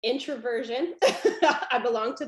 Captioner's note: laughs